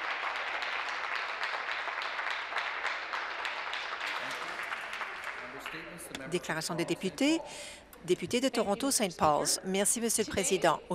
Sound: some Applause

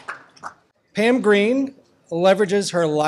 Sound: voiceover

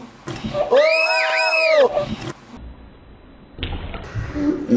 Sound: screams

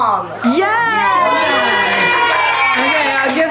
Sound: everyone cheers

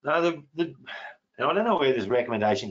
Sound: sighs

